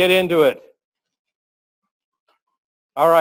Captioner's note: pause